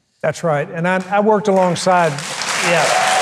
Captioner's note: audience applauding